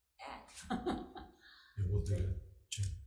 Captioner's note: laughs